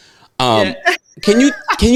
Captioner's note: laughing